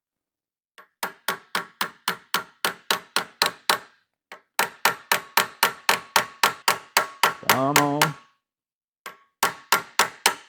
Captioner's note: hammering